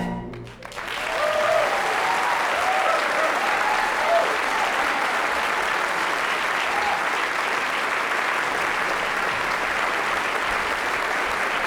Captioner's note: applause